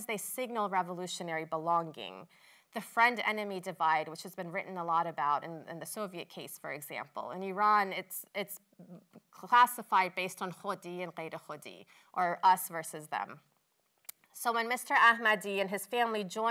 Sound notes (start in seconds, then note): 10.6 non-english